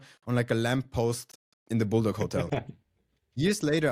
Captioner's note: laughs